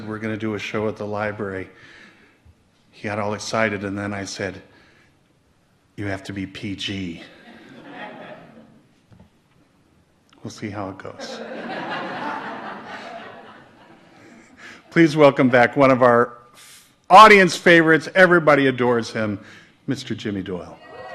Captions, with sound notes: we're gonna do a show at the library, he got all excited, and then I said, you have to be PG. (audience laughs) We'll see how it goes. (audience laughs) Please welcome back one of our audience favorites, everybody adores him, Mr. Jimmy Doyle.